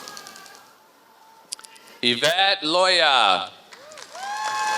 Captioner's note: applause